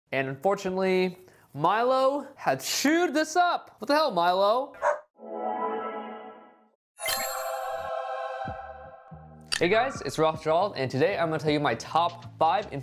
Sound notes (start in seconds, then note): 4.8 dog barks; 7.0 chimes; 7.0 spacey tones